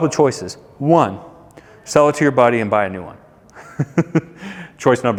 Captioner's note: laughs